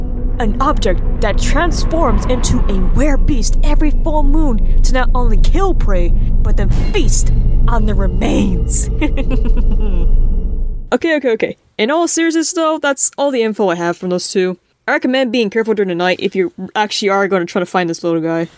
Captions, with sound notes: An object that transforms into a were-beast... every full moon! To not only KILL prey, but to FEAST on their remains! (Laughing) Okay okay okay, In all seriousness though... ...that's all the info I have from those two. I reccomend being careful through tonight, if you actually are gonna try to find this little guy.